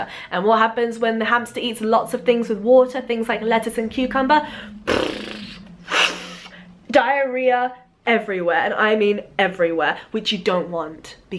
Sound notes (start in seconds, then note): 4.8 pooing noises